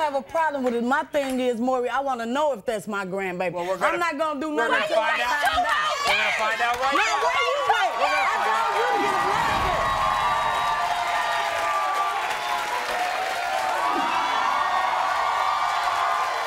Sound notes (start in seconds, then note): 12.2 crowd cheering